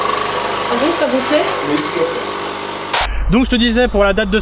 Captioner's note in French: Bruit de cafetière